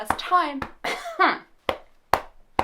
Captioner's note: coughs